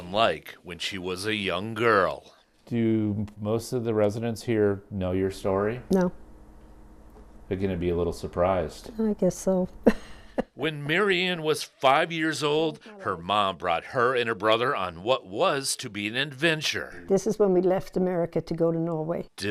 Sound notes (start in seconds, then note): 10.6 laughs